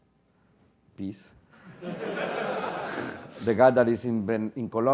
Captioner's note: laugh